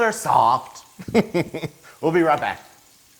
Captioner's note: laugh